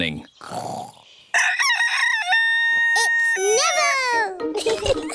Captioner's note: neville crows; both giggling